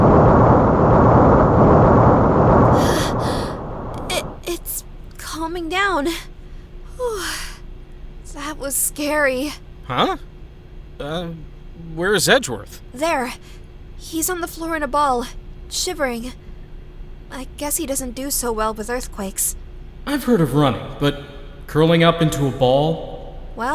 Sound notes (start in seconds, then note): 0.0 rumbling; 3.1 rumbling subsides